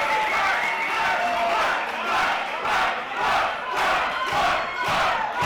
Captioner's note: crowd